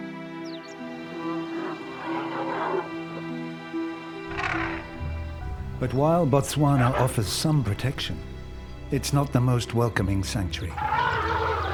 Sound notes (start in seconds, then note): 1.7 elephants grunting